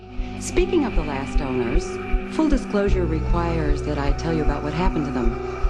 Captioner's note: female voices, audio from tv show